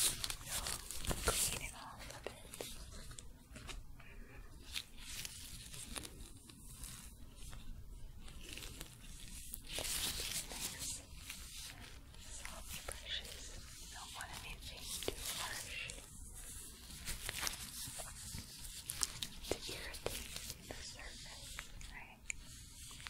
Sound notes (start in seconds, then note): 4.7 shuffling, glove sounds; 16.5 crinkling, stroking bristles